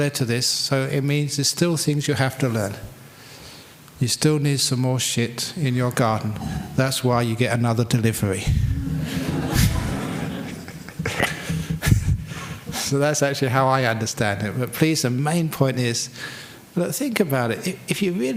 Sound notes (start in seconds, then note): 8.8 laughter